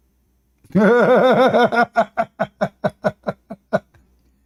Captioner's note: Ketawa